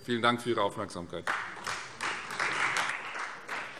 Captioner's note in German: Beifall Freie Demokraten